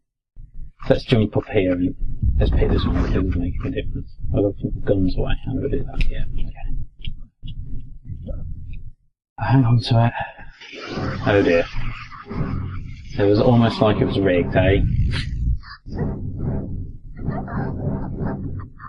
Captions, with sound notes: Let's jump up here. Let's pick ... I better put my guns away. Hang onto it ... oh dear. It's almost like it's rigged eh? *laugh*